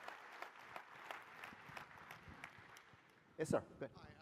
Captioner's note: applause